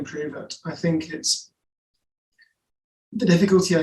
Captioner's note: pause